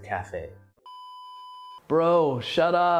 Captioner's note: video beeping